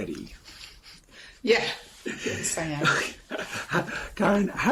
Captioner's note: chuckles